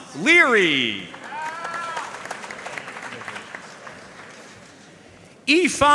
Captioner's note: audience cheering and applauding